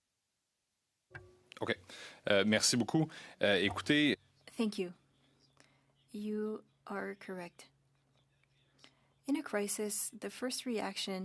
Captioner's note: speaking french